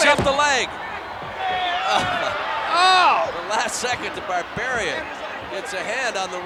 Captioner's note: applause